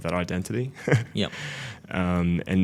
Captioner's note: laughing